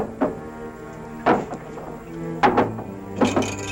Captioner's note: clinking